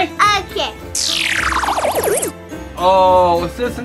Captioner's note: futuristic noise